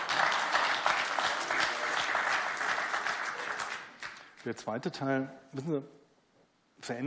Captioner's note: applause